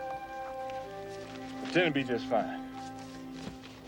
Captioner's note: none